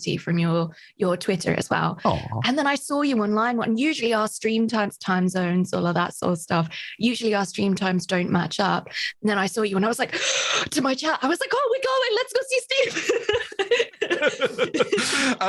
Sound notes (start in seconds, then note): 10.1 gasps; 12.8 both laughs